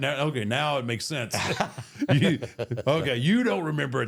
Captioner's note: both laughing